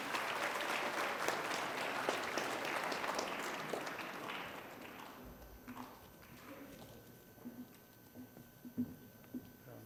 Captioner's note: applause